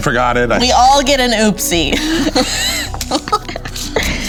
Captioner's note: laughing